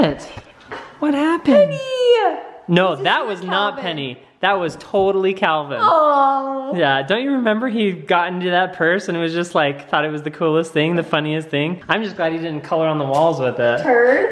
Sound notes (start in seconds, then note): 5.8 groans